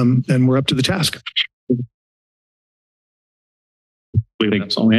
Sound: silence

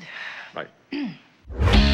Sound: clears throat

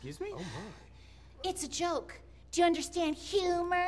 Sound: mocking

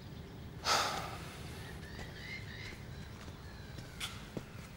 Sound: Themistocles sighs

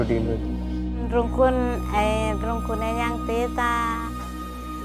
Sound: interviewee speaking sora

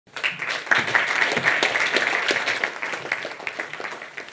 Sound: audience applauds

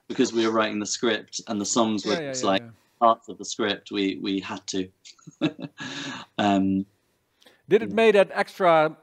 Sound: laughs

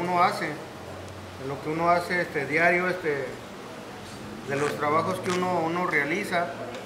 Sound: people tearing cloth apart; speaking in Spanish

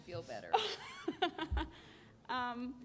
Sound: laughter

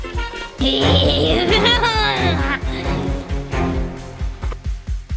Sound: laughs menacingly

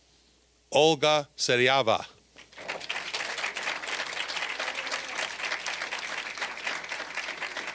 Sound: applause

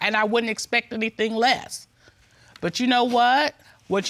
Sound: none

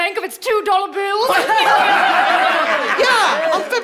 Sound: laughing

